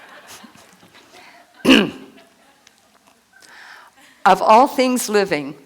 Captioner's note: laughter; laughter